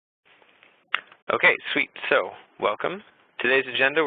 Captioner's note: voiceover